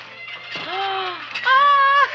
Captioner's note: Seymour's mother gasps; Seymour's mother laughs